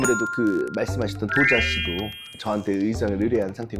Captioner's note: world-class sound effect